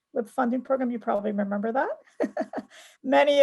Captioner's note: laughs